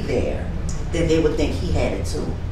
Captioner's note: none